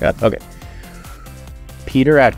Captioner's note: catches breath